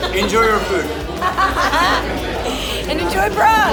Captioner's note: laughing